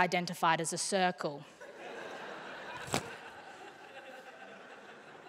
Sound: laughter

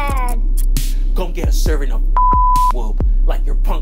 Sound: beep

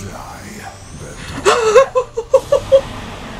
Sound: laughing nervously

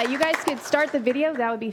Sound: applause

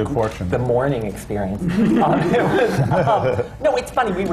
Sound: laughter

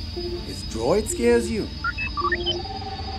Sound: droid bleeps

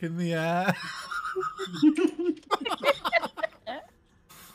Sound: all laugh

